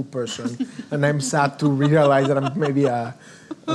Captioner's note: laughing